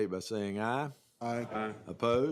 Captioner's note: chorus of ayes